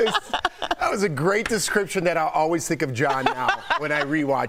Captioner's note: laughter